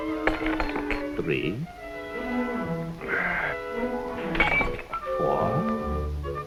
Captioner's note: Fedor groans